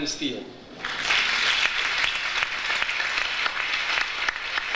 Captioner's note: audience applauds